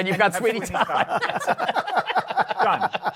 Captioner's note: laughter